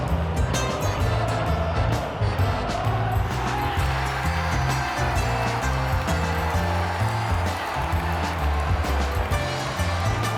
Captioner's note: crowd cheers